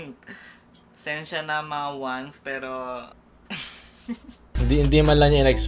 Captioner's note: laughs